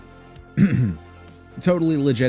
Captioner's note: clears throat